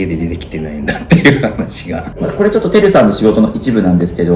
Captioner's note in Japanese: 笑い